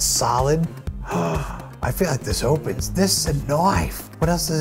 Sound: gasp

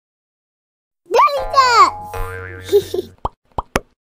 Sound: voiceover; giggles

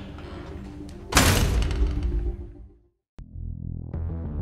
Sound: door slams

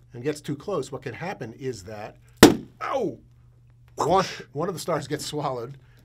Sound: pop

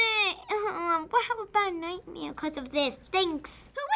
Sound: whimpers

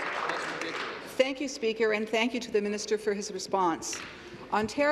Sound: applause

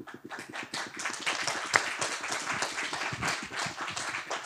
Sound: applause

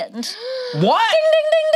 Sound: gasps

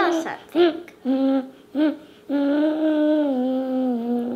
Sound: humming

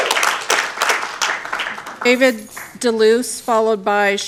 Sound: applause

